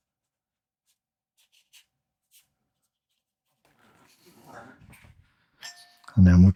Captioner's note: silence